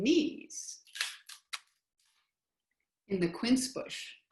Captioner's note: silence